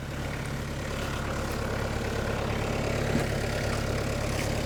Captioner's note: engine rumbles